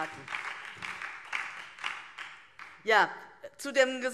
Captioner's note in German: Beifall DIE LINKE und vereinzelt SPD